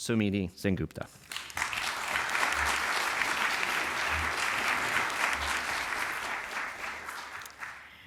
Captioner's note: applause